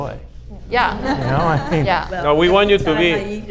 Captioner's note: audience laughs